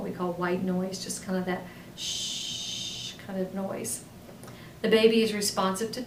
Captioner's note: hissing lightly